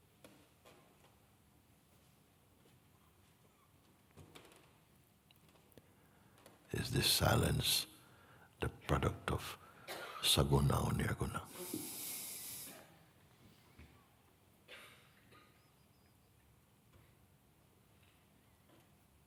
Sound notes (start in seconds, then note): 13.1 long silence